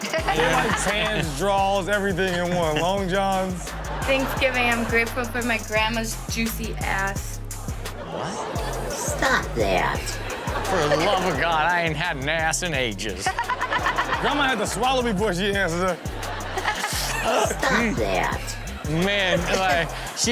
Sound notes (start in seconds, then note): 0.0 Chanel laughing; 7.9 audience laughing; 8.0 audience exclaiming; 10.9 imitating old person; 13.4 Chanel and audience laughing; 16.0 audience laughing